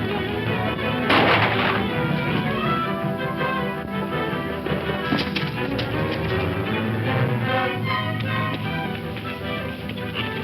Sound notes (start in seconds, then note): 1.1 gunshot